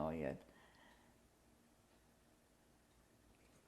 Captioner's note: pauses for 12 seconds